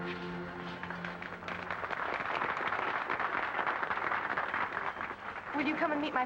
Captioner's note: guests applaud